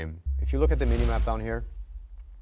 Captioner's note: whooshing